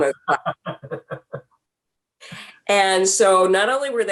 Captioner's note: laughing